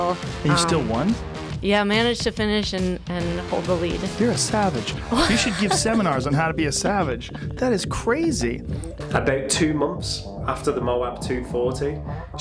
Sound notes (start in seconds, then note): 8.5 laughter